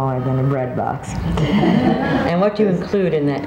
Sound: audience laughing

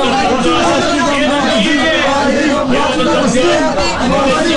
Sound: students cheering to the wrist wrestling ones

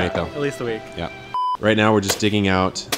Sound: beep

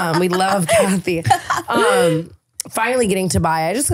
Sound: laughing

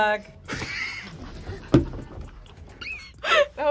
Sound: laughs; laughs

